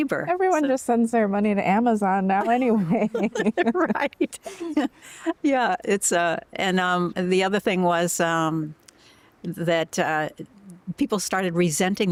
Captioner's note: laughter